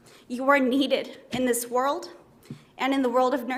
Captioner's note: none